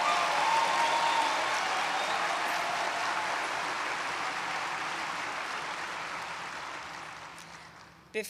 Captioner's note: applause